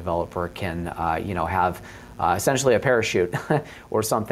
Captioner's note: chuckles